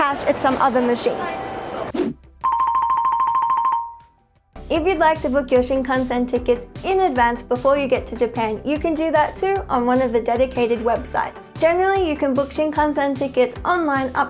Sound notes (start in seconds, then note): 1.9 air whooshing; 2.4 bell ringing